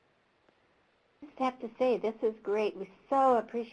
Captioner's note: voiceover